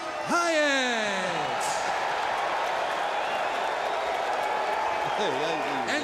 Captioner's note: crowd cheering